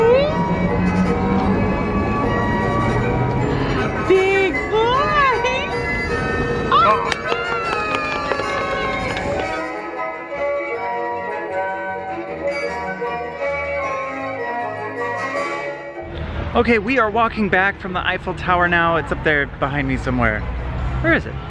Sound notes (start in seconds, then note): 0.1 lighthearted music; 3.4 gasps; 6.7 lighthearted music